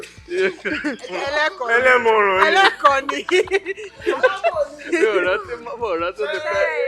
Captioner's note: everyone laughs